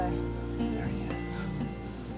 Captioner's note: whispers